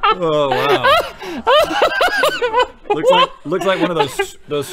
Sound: laughter

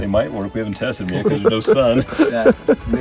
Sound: chuckling

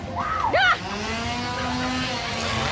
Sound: screams; power saw engine roaring

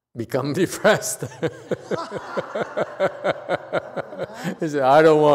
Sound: laughs

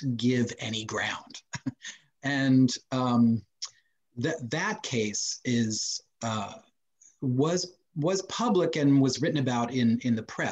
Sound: laughs

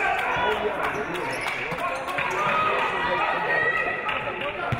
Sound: audience applauding

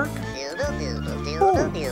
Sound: caterpillar humming

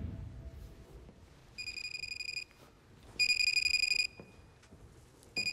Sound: phone ringing

